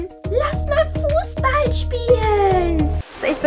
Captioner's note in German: mit hoher Stimme